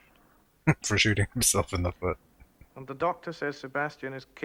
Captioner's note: chuckling